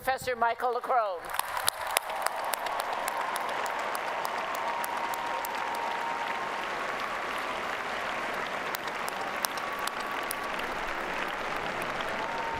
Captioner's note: applause and Cheering